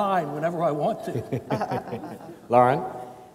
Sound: panelists chuckle

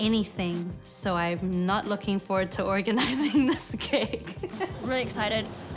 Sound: laughs

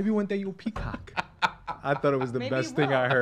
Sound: laughing

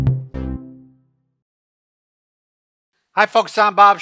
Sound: cheerful tone

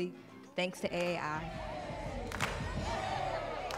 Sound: crowd

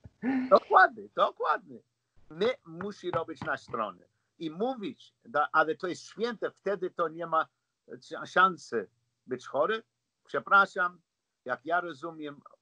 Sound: laughs

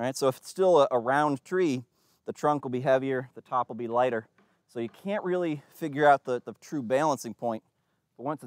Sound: none

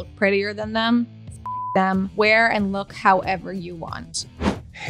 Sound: beep

